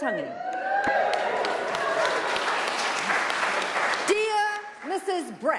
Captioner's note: applause